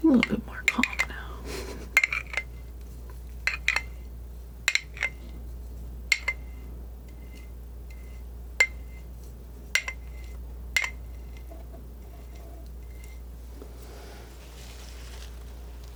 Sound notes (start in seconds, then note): 3.5 scratching